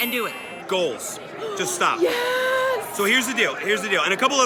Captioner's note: gasping